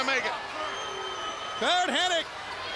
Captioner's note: crowd cheering